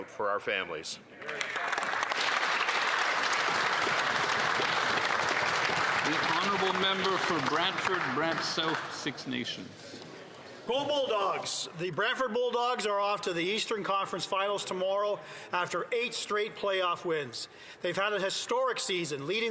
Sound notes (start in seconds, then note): 9.9 applause